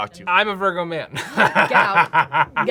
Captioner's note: laughs